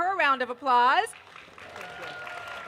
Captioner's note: applause